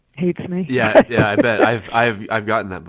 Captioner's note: laughter